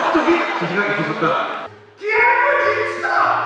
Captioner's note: laugh +2